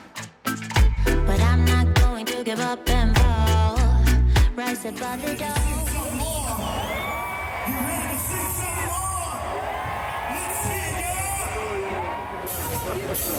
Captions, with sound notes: - Ready to sing some more? [crowd cheering] Get ready to sing some more! [crowd cheering] Let's hear it y'all!